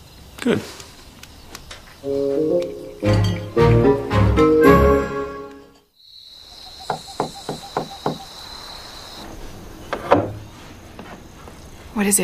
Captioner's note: soft Knocking On Door